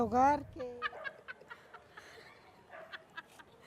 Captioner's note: laughs